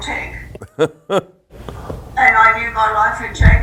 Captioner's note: laughs